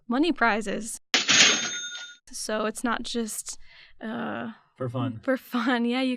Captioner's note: cash register dings